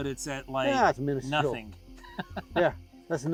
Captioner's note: laughs